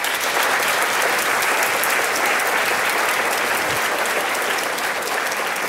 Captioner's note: applause